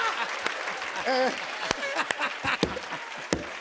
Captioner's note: laughs